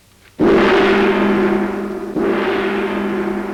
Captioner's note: gong chiming